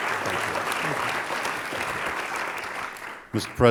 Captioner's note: applause